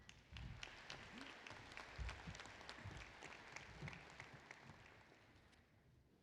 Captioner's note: applause